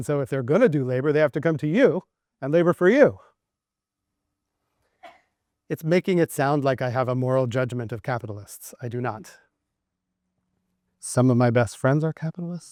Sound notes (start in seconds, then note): 4.5 audience coughs loudly